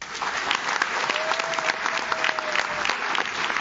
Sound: audience claps

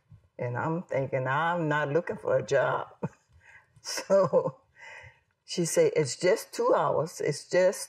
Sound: laughs

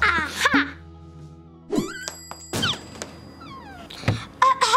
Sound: door swings open

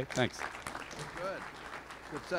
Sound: applause

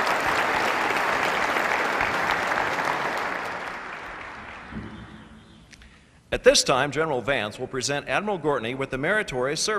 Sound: applause

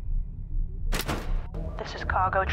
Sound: switch thunks

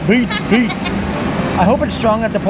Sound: laughs

